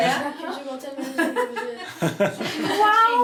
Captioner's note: laughing